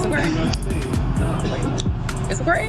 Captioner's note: noisy city